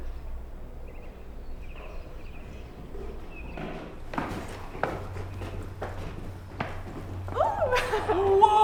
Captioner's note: footsteps